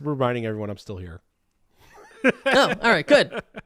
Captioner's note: chuckling